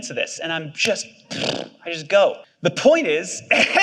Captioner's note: scoffs